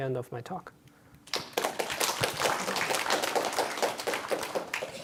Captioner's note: applause